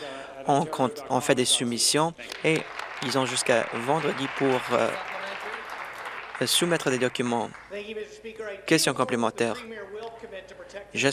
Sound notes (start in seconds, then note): 5.8 applause